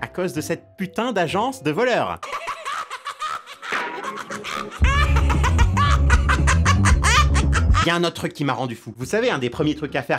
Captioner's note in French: Rire de l'agent